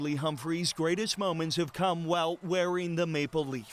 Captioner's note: cheers and Applause